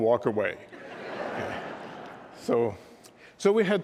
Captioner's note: laughter